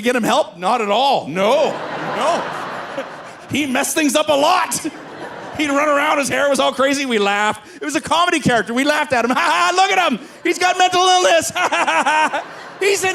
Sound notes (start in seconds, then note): 1.4 audience laughing; 5.1 laughs; 9.7 laughs; 11.1 laughing